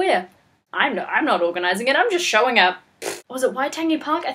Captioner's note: pfff